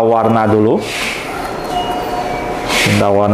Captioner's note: doorbell sound